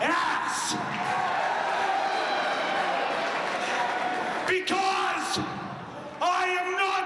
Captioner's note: crowd cheering